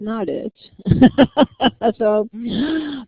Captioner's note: laughter